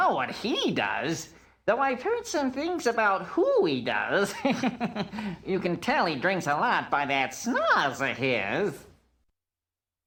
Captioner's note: laugh